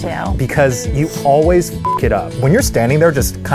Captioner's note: beeps